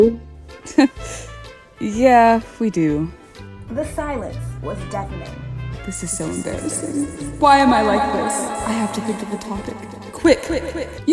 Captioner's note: nervous chuckle